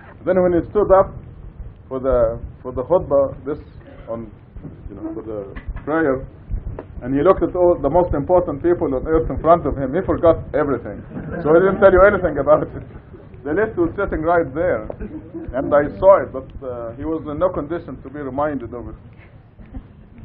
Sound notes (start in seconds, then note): 10.8 Gülüyorlar